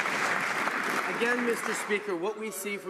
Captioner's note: some Applause